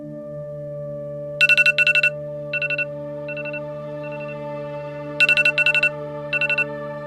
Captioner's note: alarm sound